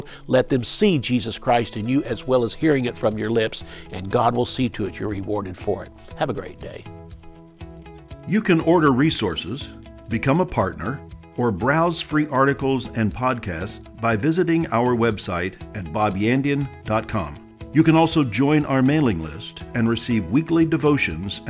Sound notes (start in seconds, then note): 8.7 voiceover